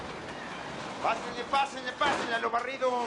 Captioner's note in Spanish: Ruido al abrir